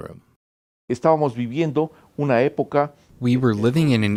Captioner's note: speaking foreign language